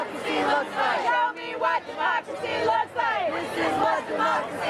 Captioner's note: unison chant